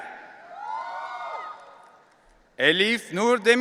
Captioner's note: audience cheering